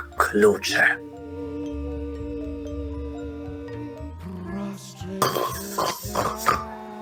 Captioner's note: the heaviest snore